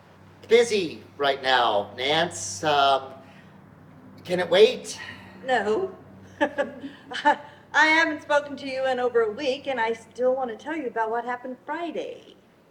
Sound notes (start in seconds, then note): 4.6 laughs